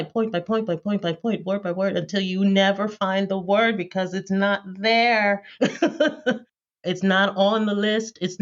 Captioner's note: laughter